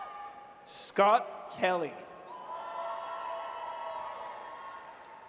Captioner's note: audience cheers